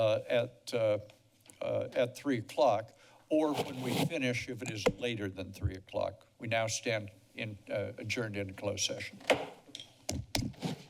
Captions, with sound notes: at three o'clock. Or when we finish, if it is later than three o'clock. We now stand adjourned and closed session. [bangs gavel]